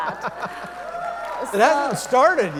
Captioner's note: audience members cheering